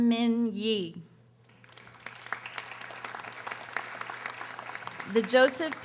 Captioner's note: audience applauding